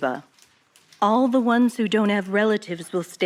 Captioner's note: archival news audio